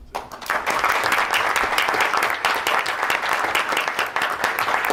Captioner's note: board applauds